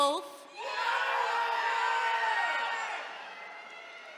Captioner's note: attendees cheering